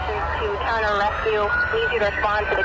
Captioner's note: sirens wailing; speaking on radio